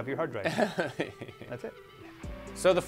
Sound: chuckling

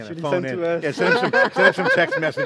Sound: laughing

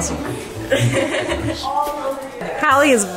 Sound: laughs

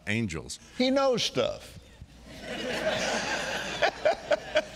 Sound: all laughing

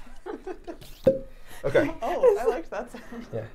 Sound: syringe popping

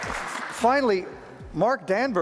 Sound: applause

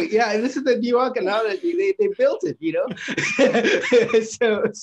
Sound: laughs

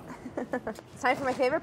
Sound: laughs

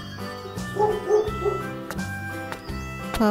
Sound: dog barks

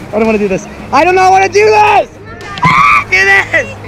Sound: exclaims; screams

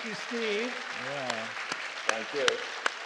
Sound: applause

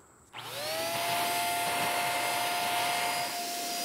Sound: spray gun buzzing

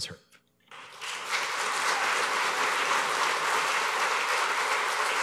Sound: applause

